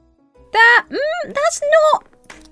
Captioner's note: hums